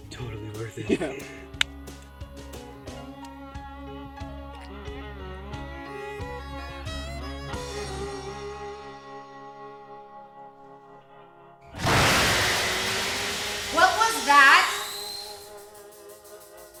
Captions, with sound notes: - Totally worth it. - Yeah. (upbeat music) (crashing) - What was that?